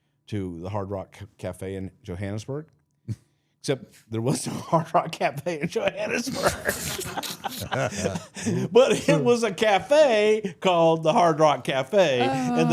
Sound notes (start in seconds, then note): 3.3 hatted man chuckling; 4.6 laughing; 5.5 all laughing